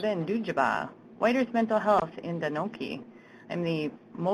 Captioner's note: speaking native language; speaking native language